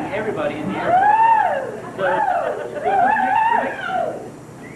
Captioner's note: crowd cheers